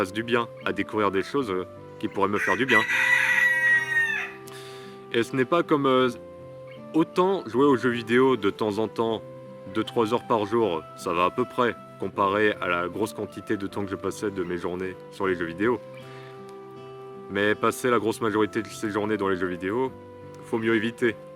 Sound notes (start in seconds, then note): 2.3 rooster Cries